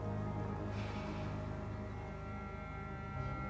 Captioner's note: exhaling deeply